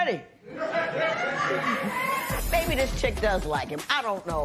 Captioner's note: laughter